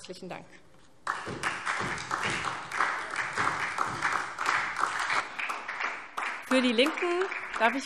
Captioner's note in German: Beifall SPD